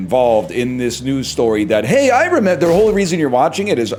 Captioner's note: mocking voice